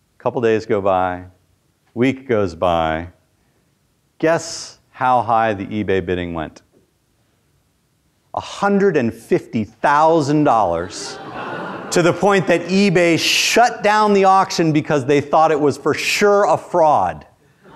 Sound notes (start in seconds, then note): 10.8 students laugh